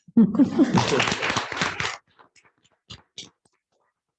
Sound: applause

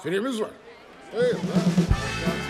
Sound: murmurs

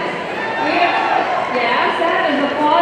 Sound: audience cheering

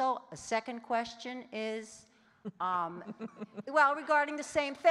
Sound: laughing

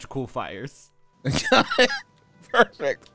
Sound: laughs

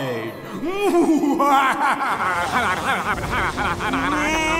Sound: laughs; mumbling in panic

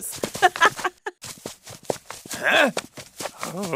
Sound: game announcer laughs

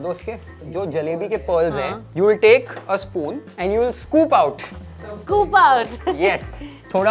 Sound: laughs

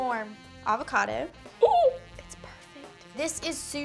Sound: gasps

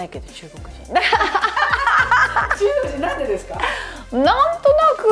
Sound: laughter

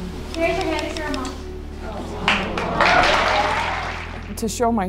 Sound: clapping

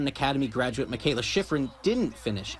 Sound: nats cowbell and cheers

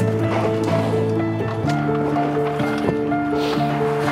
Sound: equipment rattling; boat hull scraping; melancholy light classical music continuing

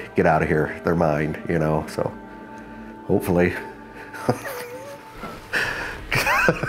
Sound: chuckles

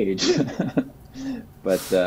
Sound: laughs

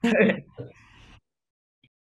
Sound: speaks Russian; chuckles; in English

